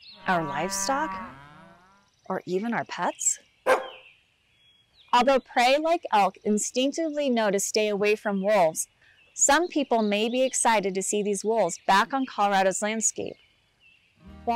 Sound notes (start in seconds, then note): 0.1 mooing; 3.6 dog bark